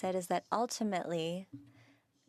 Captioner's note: speaking French